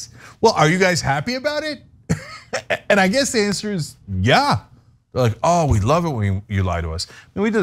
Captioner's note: laugh